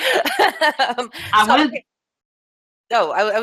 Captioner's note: laughs